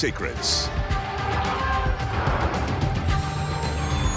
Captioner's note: elephant trumpeting; upbeat music